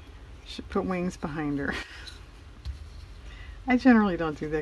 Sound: laughs

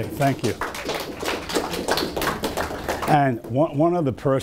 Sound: audience applause

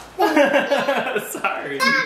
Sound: laughing

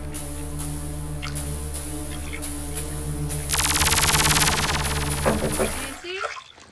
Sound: clangs intensifies and speeds up; knock at the door

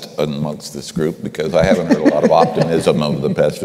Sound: laughter

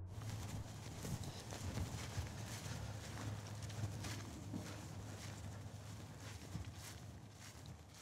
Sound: footsteps on grass

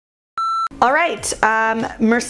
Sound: beep

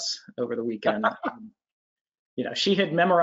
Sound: laughing

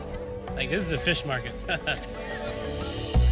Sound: chuckles

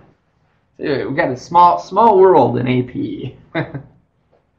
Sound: laughing

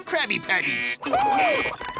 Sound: buzzer sounding

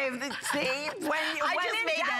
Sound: laughter

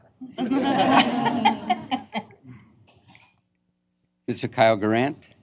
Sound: laughter

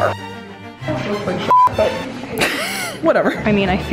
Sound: beep

